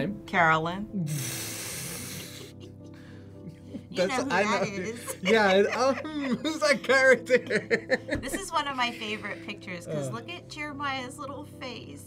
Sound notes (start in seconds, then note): 2.0 laughs; 7.3 both laugh